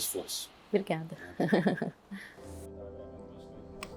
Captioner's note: laughs